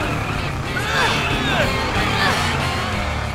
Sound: both grunting

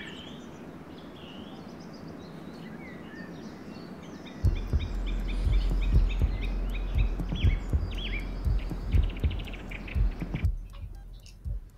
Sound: bird song. irregular beats. beeping

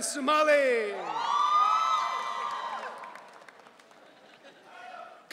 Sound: audience cheering

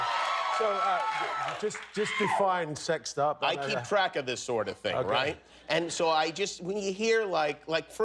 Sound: cheers

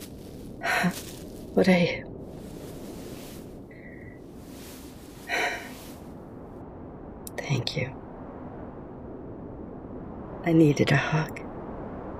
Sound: contented sigh; shuddering breath

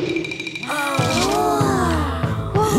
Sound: children gasping

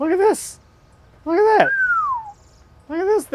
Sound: man whistles

